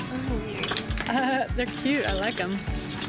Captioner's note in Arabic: ضحكات